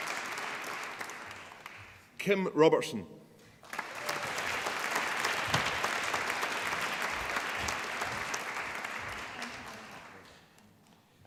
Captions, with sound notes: Kim Robertson (APPLAUSE)